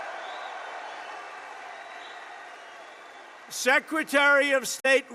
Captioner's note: applause